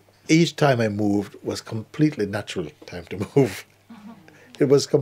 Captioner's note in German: Lachen